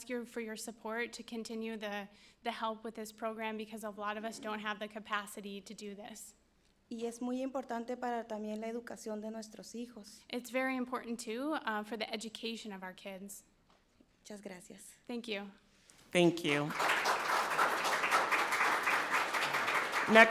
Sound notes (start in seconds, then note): 7.1 speaking in foreign language; 16.1 people clapping